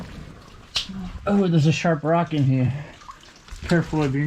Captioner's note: none